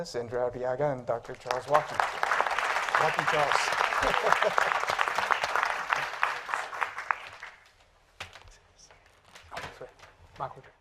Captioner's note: applause